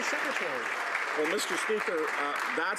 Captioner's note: some Applause